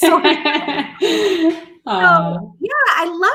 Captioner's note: laughter